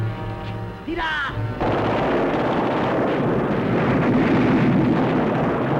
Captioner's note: gunfire